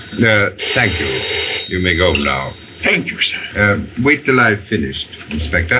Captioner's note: phone Ringing